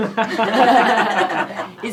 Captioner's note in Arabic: يضحك